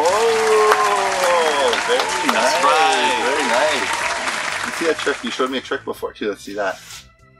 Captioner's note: applause